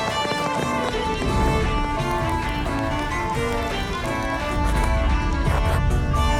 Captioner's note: running footsteps